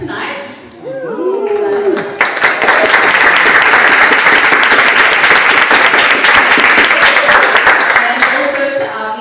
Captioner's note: audience applauds